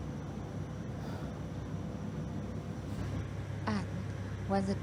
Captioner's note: sigh